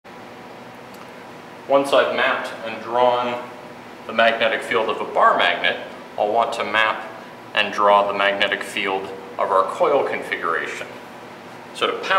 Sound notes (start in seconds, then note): 1.9 voiceover